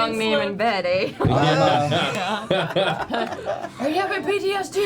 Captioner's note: laughter